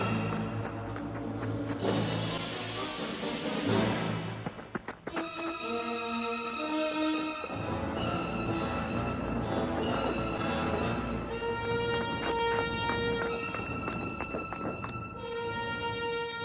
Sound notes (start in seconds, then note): 6.5 footsteps rumbling; 11.7 footsteps tapping